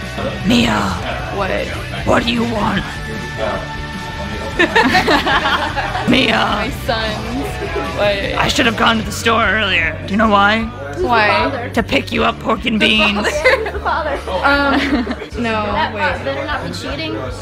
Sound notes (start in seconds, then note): 0.4 Batman Voice; 4.6 giggles; 6.2 Batman Voice; 8.6 Batman Voice